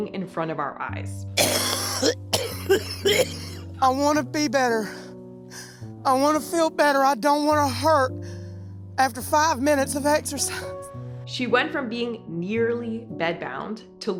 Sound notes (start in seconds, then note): 1.4 coughing; 10.8 pants